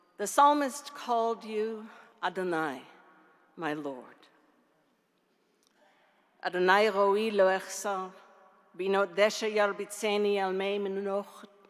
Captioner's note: speaking in Hebrew